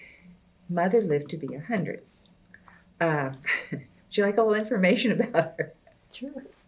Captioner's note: laughs